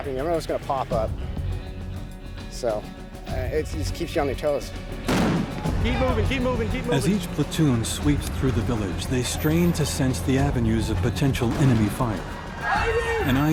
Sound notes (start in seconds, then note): 5.1 explosion; 7.0 voiceover